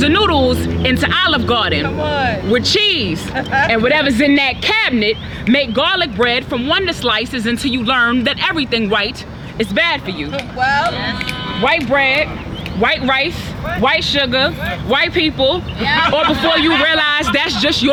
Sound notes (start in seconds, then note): 10.6 cheers; 15.8 laughter